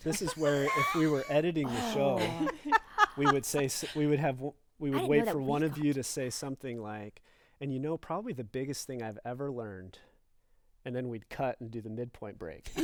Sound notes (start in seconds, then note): 2.9 laughter